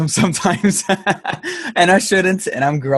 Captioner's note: laughs